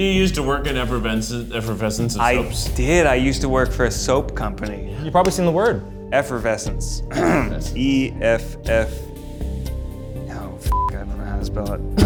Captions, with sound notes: - Didn't you use to work at Effervescence of Soaps? - I did, I used to work for a soap company. - You've probably seen the word. - Effervescence. (clears throat) E-F-F, no, (beeps), I don't know how to spell it.